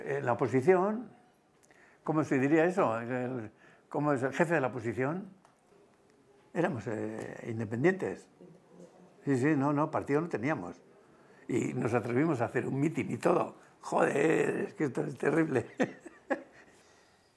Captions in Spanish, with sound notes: la oposición, ¿cómo se diría eso? Como es... Jefe de la oposición. Éramos independientes. Partido no teníamos. Y nos atrevimos a hacer un mitin y todo. ¡Joder! Es que es terrible. [ríe].